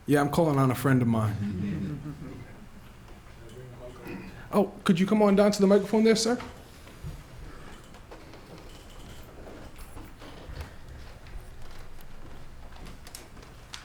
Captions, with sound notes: Yeah, I'm calling on a friend of mine. [LAUGHTER] Could you come on down to the microphone there, sir?